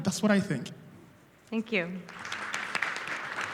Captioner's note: audience applauds